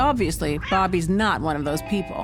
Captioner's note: cat meows